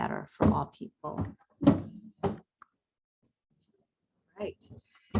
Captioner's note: box thuds